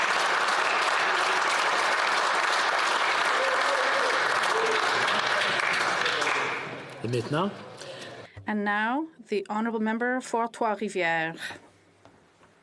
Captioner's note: applause Continues